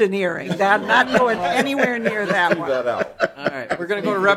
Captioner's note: laughter